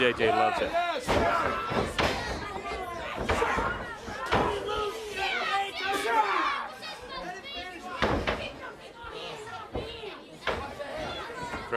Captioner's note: crowd chatter